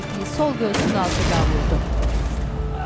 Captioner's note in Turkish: Silah sesleri